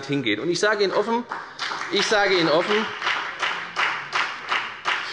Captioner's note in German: Beifall bei der FDP